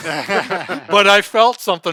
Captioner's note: laughing